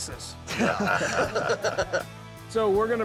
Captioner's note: laughter